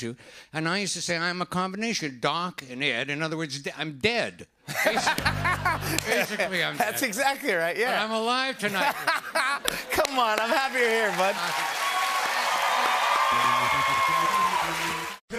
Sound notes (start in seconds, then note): 4.6 laughter; 11.6 cheers and applause